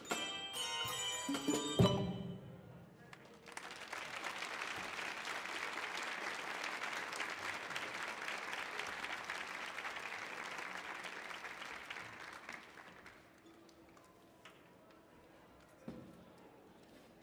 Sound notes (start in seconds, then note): 3.4 audience applauding